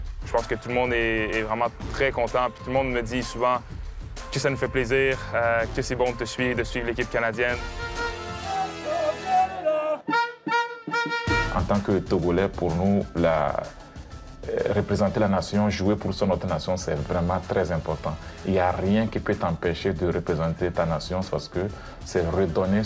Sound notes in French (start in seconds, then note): 8.4 cris d'encouragement